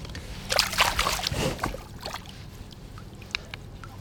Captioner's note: fish splashing